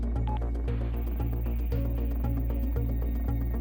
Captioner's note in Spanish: Bip